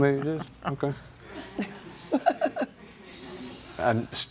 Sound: laughs

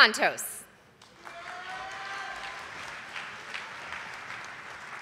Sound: audience applauding

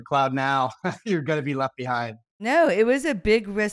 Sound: laughs

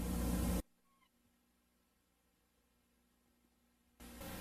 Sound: silence

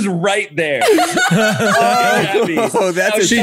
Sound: all laugh

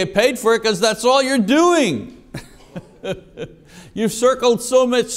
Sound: chuckles

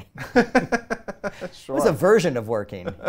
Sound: laughs

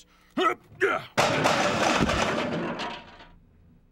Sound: top clatters loudly on floor

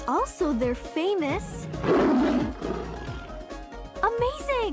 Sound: roars

